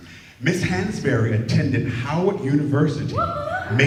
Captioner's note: cheering